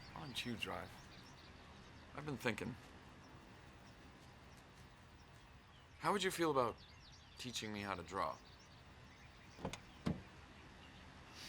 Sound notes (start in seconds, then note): none